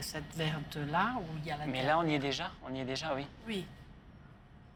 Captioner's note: both speaking French